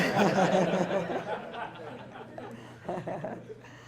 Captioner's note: laughter